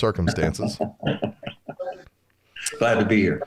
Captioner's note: laughter